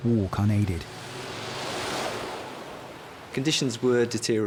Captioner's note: waves crashing